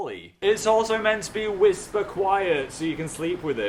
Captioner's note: screaming while air conditioner runs